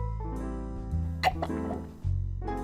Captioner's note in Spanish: gulp